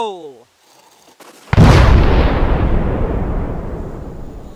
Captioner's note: boom